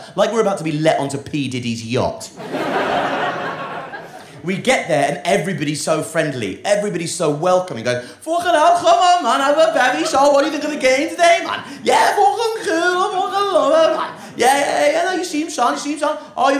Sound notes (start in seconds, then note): 2.3 audience laughing